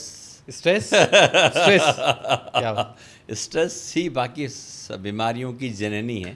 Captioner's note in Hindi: हंसी